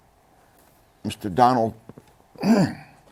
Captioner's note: laughs